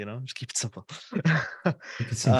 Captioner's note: laughter